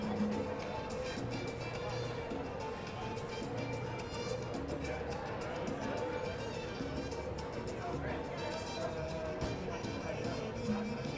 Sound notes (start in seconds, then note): 0.3 upbeat music; 7.2 people chattering